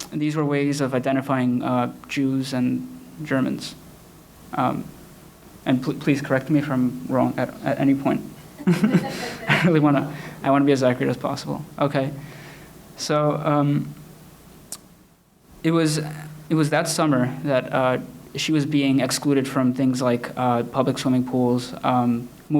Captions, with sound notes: These were ways of identifying Jews and Germans. And please correct me if I'm wrong at any point. (laughs) I really wanna be as accurate as possible. It was that summer that she was being excluded from things like public swimming pools,